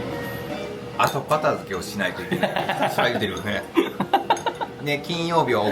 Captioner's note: laugh